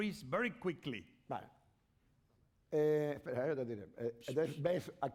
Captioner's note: speaking spanish